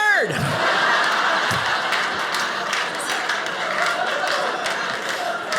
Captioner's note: audience laughing